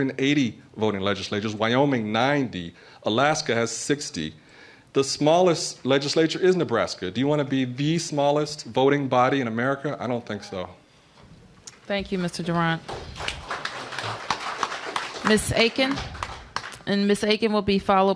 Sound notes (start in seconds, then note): 15.0 applause